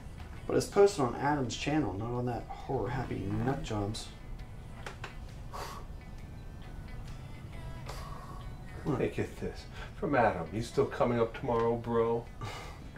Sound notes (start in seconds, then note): 4.0 text alert; 5.8 sigh